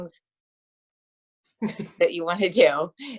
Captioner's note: laughter